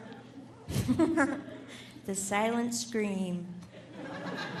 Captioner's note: laughs; audience laughing